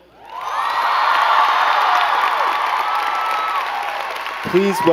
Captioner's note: crowd cheering and clapping